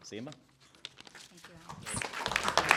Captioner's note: applause